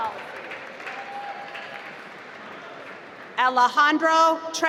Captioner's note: applause